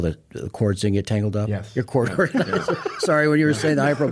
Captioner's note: laughs